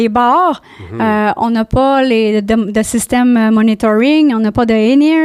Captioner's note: in french